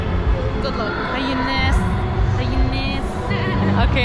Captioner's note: in lebanese